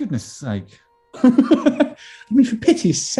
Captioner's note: laughing